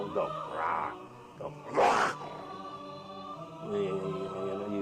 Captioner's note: snarls